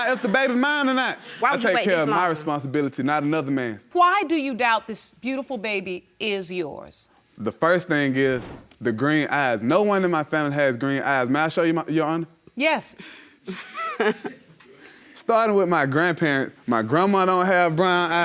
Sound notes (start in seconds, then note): 13.5 laughs